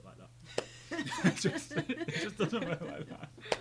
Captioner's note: group laughing